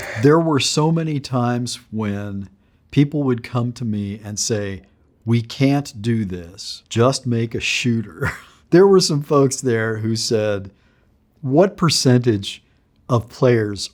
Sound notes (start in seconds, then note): 0.0 upbeat electronic music; 8.2 chuckling